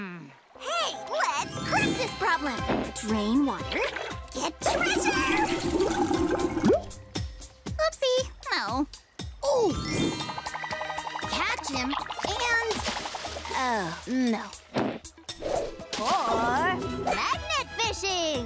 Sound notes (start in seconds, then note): none